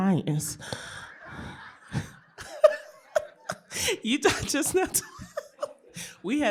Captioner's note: laughter